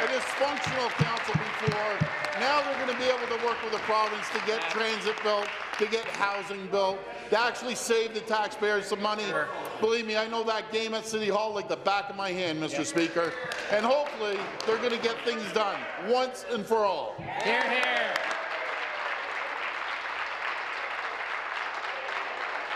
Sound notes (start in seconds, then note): 4.3 applause; 22.3 applause